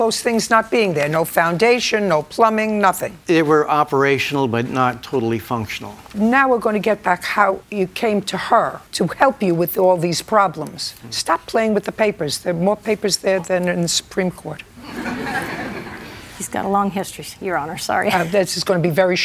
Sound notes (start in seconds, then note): 14.8 laughter